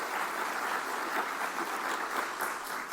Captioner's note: applause